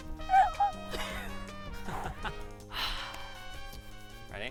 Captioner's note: both laughing